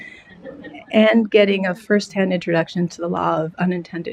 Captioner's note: laughter